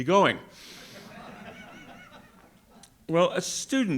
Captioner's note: audience laughing